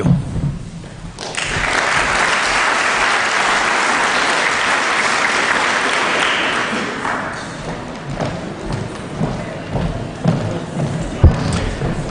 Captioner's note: applause